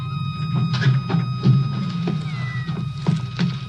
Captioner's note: cat meows